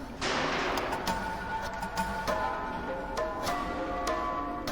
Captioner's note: door clanking